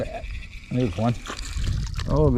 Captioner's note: rapid reeling